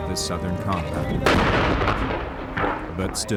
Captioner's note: cannon firing